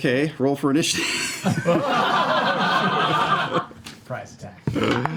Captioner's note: laughter